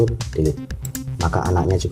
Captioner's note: click